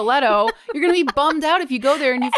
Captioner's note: laughs